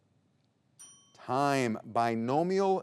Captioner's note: timer chimes